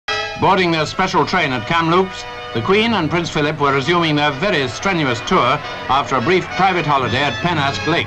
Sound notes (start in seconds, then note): 0.0 announcer voice